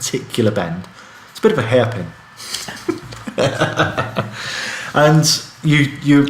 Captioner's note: laughing